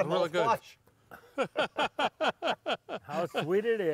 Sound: laughing

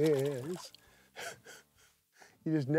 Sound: laughs

